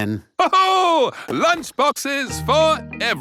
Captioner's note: laughs